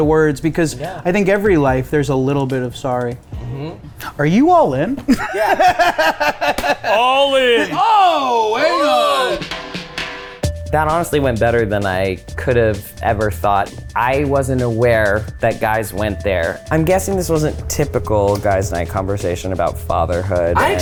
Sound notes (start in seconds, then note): 5.0 laughing; 9.1 smooth jazzy music begins